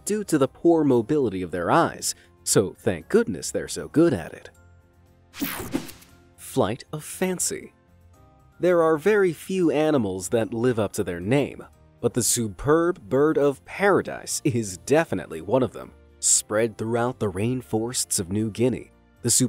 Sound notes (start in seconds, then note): 5.4 logo snaps